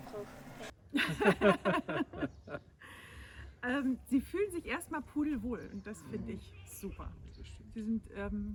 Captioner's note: laughs